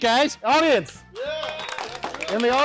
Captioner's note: clapping